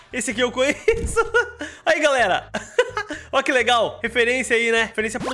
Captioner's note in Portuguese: risos